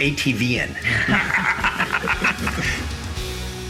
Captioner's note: laugh